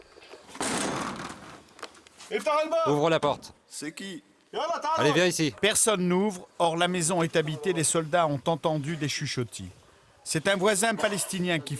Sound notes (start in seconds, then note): 2.7 Arabic spoken audio